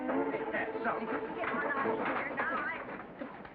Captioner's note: commotion